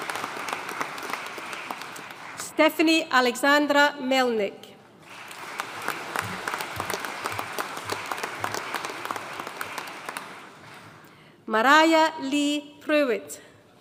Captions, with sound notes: Stephanie Alexandra Melnick. (AUDIENCE APPLAUDING) Mariah Leigh Prewitt.